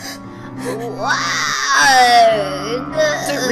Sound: creature howls

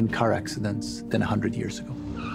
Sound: tires screech

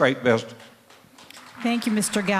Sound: applause

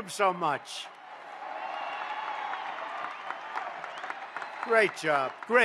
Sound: applause

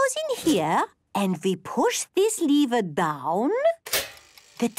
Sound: clicks

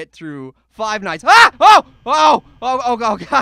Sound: screams

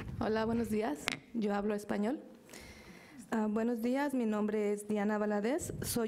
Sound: speaks in a foreign language

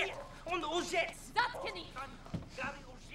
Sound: speaking russian

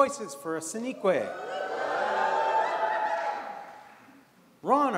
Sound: audience cheers

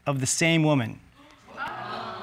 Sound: audience exclaiming

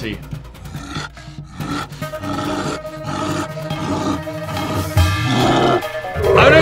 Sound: suspenseful music; werewolf snarls

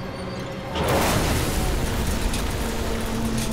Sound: landmine exploding; tank metal creaking

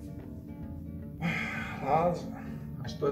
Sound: sigh

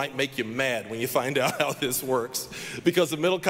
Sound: laughing

